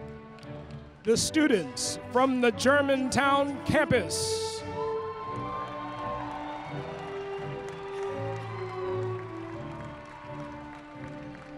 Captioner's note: applause